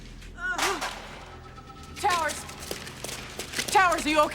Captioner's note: moans